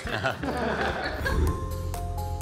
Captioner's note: group chuckling; image whooshes; gentle upbeat music